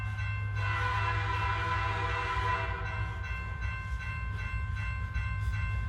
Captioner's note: train hissing continues